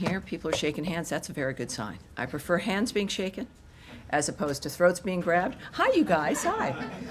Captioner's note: laughter